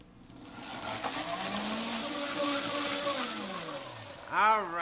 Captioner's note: blender whirring